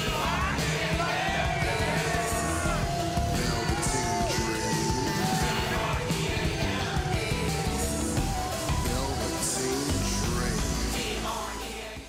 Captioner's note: crowd cheering